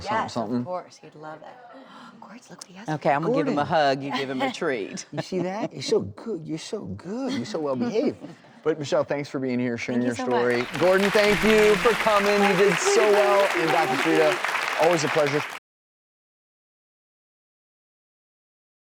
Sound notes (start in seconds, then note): 10.3 applauding